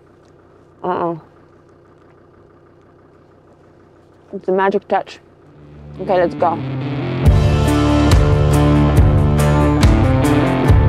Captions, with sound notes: Oh-oh. (car engine idling) It's a magic touch. Okay, let's go. (intense music)